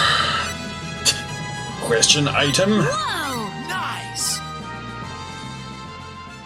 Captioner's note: laughs softly